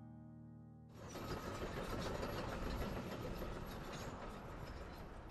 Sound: machine rattling

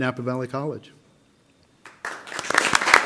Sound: applause

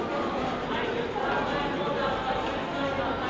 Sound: people chatting

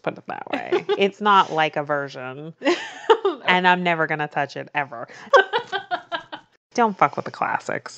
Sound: laughs

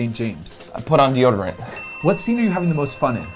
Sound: bell dings

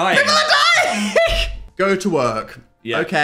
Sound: laughs

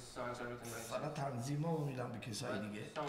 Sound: speaking in farsi

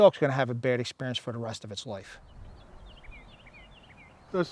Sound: birds chirping

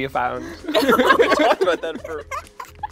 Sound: laughing

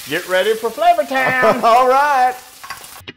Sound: laugh

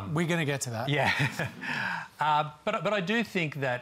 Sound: chuckles

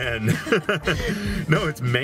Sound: both laugh

